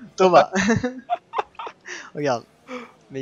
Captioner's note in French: Rires